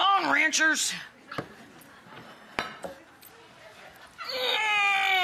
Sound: audience laughs

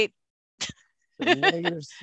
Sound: chuckles

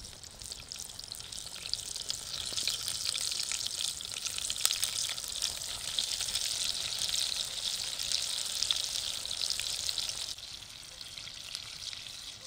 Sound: oil sizzling

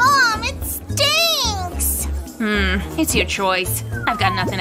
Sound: whistles

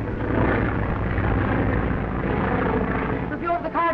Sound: engines droning

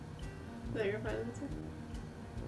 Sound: quietly

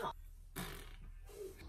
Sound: puung

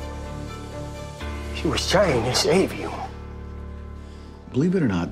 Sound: none

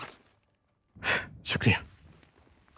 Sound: gasps

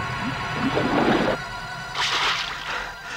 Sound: breathes heavily

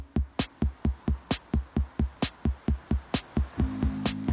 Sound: rain whooshes

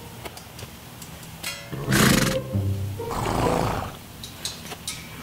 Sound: playful music; horse snorting

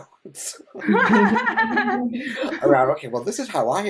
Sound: laughing

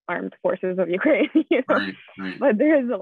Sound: laughs

